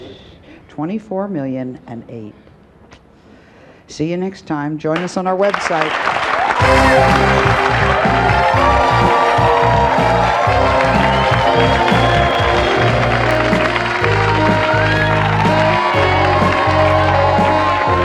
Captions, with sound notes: 24 million and eight. See ya next time, join us on our website. (audience cheers) (upbeat music)